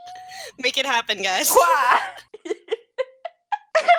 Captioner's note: laughter